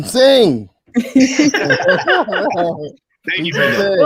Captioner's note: laughing